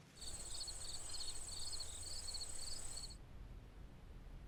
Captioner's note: crickets chirping